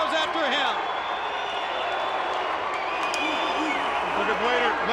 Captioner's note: crowd chattering